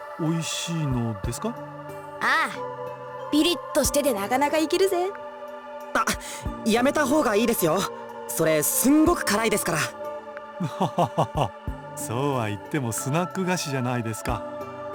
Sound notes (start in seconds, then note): 10.6 laugh